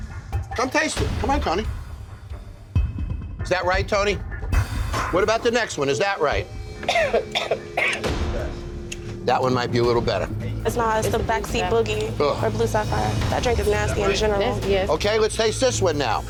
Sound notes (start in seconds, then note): 6.8 coughing